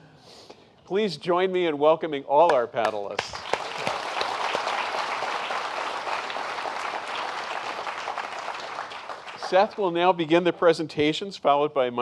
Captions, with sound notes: Please join me in welcoming all our panelists. (Applause) Seth will now begin the presentations, followed by